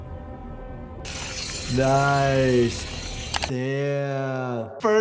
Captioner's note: ominous music; blades grind